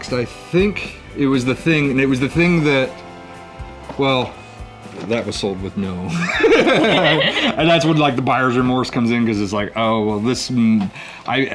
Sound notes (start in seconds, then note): 6.1 both laugh